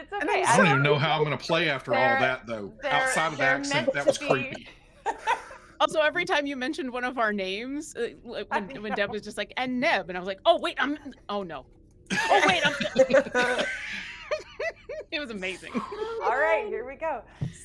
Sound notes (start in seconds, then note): 5.2 laughing; 12.1 group laughing